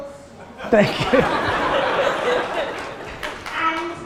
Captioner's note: audience laughter